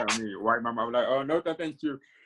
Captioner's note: laughing